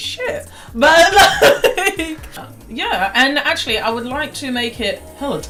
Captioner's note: aughs